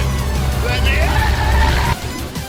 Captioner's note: screaming